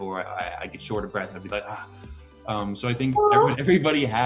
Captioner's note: gasps